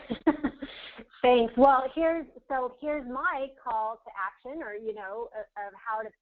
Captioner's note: laugh